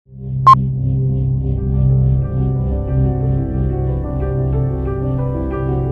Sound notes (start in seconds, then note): 0.3 beep; 3.3 piano music